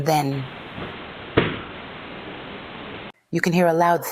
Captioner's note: thump